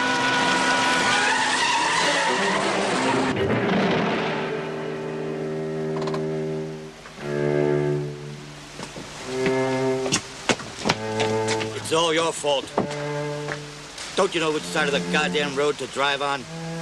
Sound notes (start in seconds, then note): 0.0 tires screech; 2.2 crash